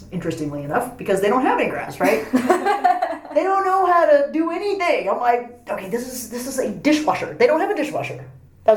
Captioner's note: laughs